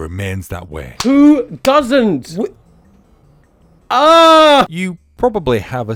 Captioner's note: shouting